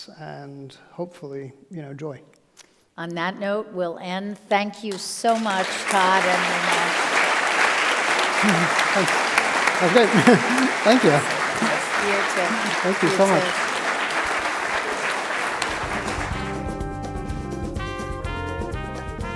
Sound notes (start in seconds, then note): 6.3 audience clapping